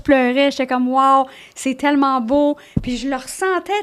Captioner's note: in french